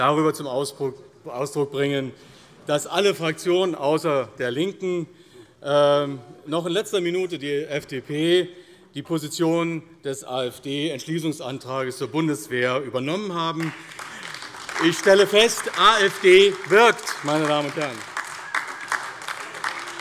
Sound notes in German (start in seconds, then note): 13.5 Beifall AfD